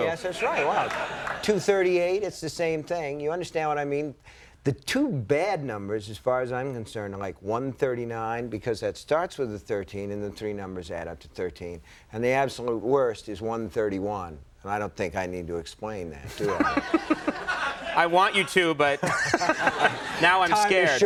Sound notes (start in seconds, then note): 16.3 Conan laughing